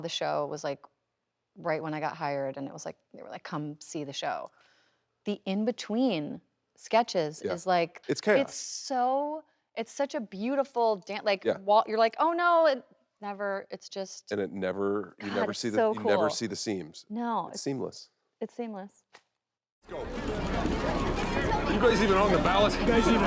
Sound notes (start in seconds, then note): 19.9 people chattering